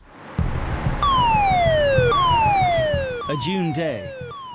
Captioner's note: siren wailing